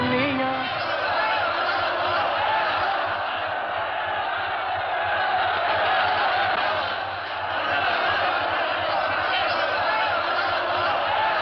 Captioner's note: commotion